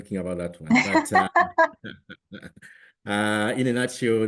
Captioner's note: laughter